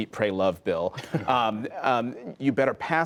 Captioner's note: laughter